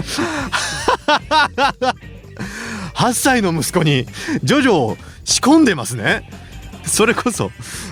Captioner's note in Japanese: 笑い